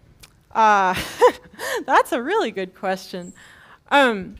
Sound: laugh

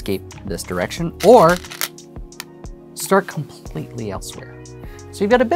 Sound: stones rattling

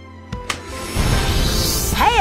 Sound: clap

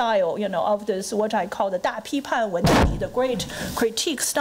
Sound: foreign language

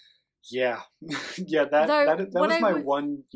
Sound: laughs

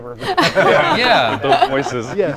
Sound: group laughing

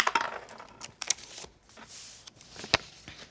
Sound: dice rattles

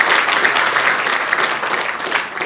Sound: applause

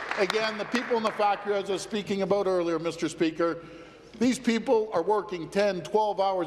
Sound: applause

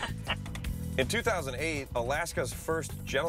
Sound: laughter

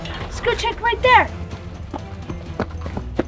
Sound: footsteps

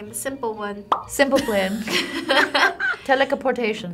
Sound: both laugh

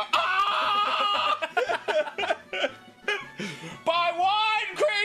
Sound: Arin and Danny laugh

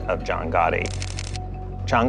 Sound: camera shutter clicks

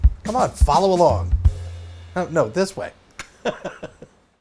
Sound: laughs

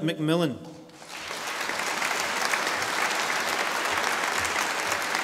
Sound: audience applauding

